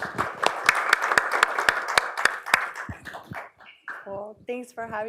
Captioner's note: applause